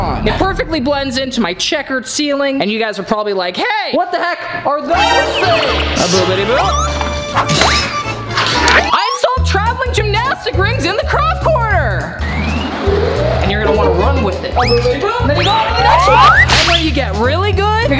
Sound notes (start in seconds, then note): 7.0 upbeat music; 12.1 comical sounds